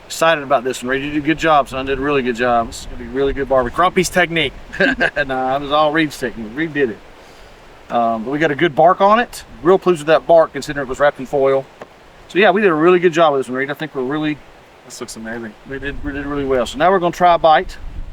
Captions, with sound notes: Excited about this one. Ready to do a good job son. Did a really good job. This is gonna be a really good barbie. Crumpy's technique. (laughs) Nah, it was all Reid technique, Reid did it. But we got a good bark on it. Real pleased with that bark considering it was wrapped in foil. So yeah, we did a really good job of this and Reid I think we're really, this looks amazing. We did really well. So now we're gonna try a bite.